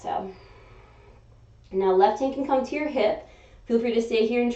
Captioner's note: exhaling; inhaling